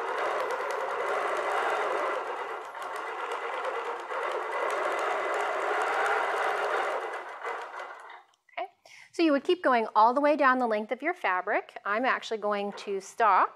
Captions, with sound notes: [sewing machine whirring] Okay, so you would keep going all the way down the length of your fabric.